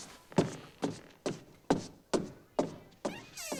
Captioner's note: stomp, stomp, stomp